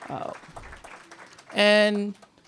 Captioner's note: applause